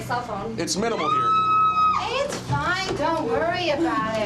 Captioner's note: screams